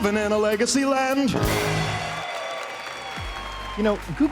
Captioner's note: applause